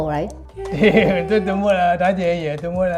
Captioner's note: laughs